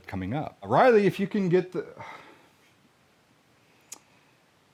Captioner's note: sighs